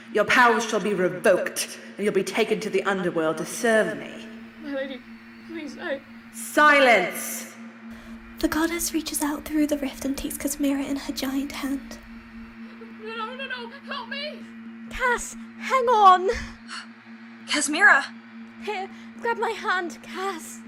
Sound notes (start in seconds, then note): 17.1 gasp